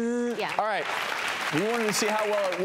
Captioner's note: audience applauds